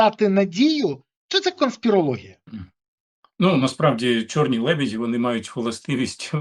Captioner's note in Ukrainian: прочищення горла